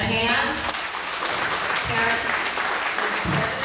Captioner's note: applause